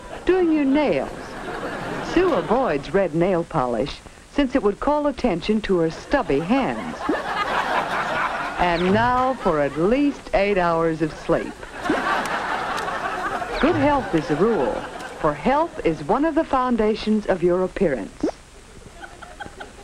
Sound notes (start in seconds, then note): 5.9 audience laughs